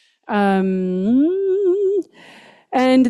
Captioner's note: hums